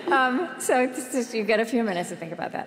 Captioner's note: laughter